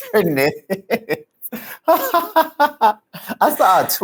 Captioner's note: laughs